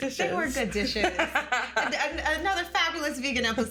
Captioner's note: laughing